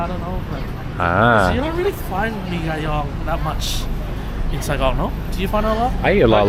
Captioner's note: speaking Vietnamese